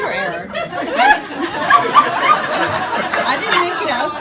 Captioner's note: audience laughing